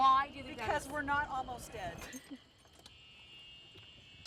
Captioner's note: laughs